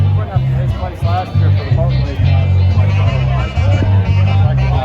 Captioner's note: people conversing